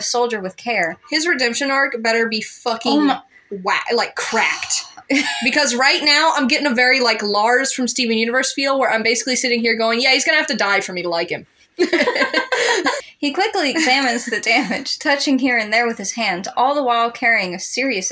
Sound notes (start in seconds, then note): 4.5 sigh; 5.0 laugh; 11.8 both Laugh